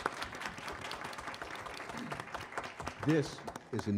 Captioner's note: applause